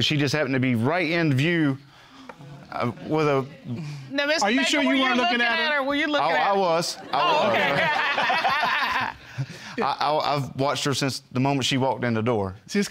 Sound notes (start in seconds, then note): 2.5 stammers; 7.1 both laughing